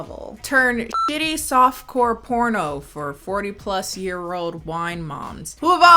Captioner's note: beep